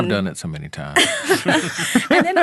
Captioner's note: all laughing